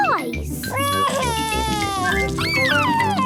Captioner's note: crying